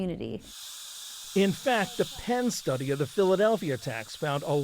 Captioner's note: voice-over